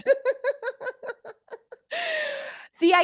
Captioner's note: both laugh